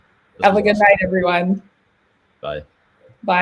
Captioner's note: faintly speaking